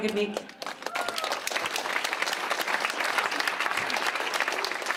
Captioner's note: clapping and cheering